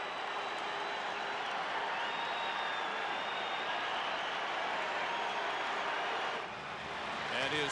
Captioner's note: some cheers and applause